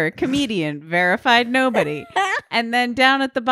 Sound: laughing

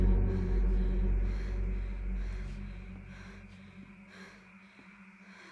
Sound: Stephanie panting

